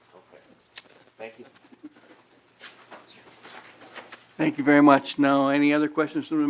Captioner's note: laughing